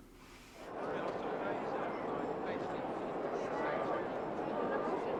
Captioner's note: congregation chatter